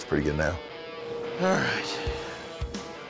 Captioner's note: sighs